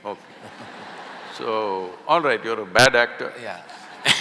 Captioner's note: laughter; laughter